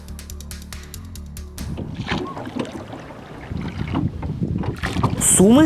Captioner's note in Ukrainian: плеск води